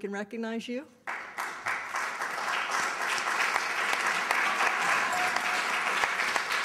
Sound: applause

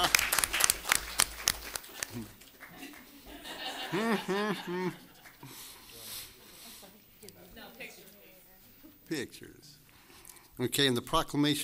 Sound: applause

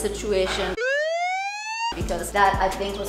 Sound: police siren

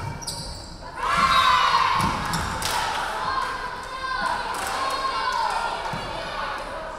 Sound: referee whistling; crowd cheering

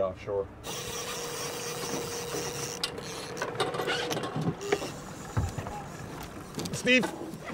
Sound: reel spinning

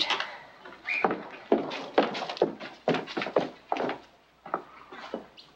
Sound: footsteps receding

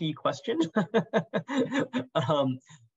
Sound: laughs

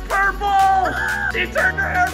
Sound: screams

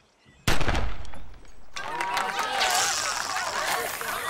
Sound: gunshot in distance; line casting; people clapping, shouting

